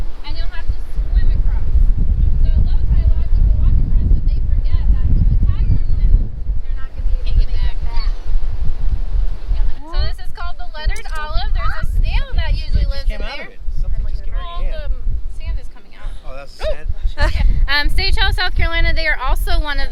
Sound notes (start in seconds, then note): 3.4 wind Blowing